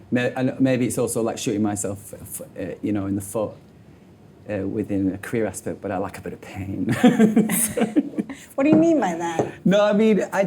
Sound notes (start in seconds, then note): 6.9 laughs